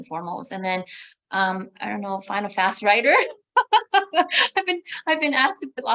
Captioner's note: laughs